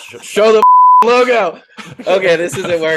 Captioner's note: beep